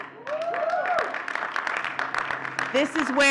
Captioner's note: audience cheering and clapping